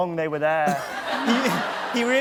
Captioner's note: laughter